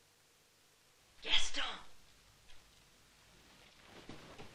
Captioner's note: whispering